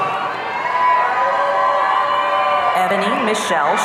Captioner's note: audience cheering